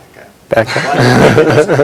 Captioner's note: chuckles